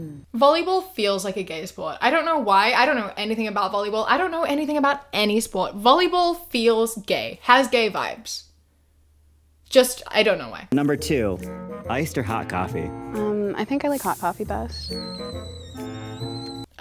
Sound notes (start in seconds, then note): 0.0 both hum; 13.9 tea pot whistling